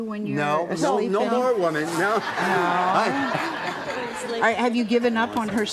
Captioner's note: audience laughs